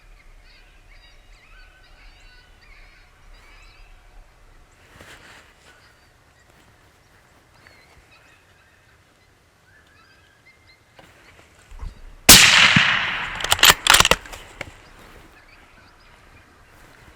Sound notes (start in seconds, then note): 12.3 shot fires; 12.3 reloads gun